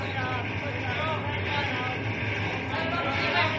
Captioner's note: indistinct chatter